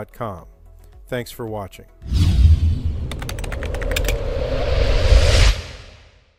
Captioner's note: logo whooshing; keyboard clacking